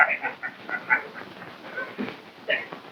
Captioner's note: laughing